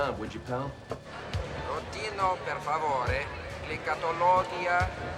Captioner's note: announcer speaking italian